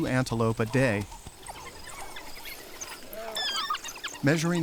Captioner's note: dogs chittering